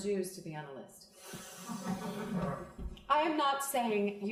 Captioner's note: crowd laughing